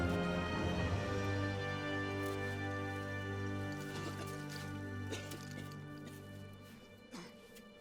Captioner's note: coughing